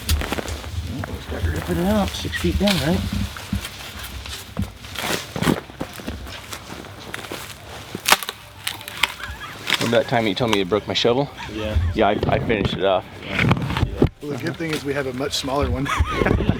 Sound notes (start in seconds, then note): 7.9 sound of plastic snapping; 8.8 chuckling; 15.6 group chuckling